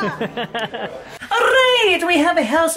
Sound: laughing

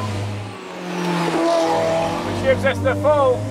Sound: car engine roars

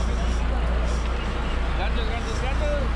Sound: background chatter; boat engine running; reel cranking

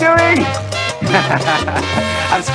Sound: laughter

